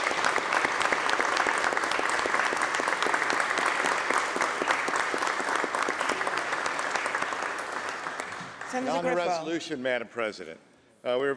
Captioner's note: applause